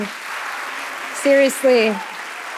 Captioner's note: audience applauding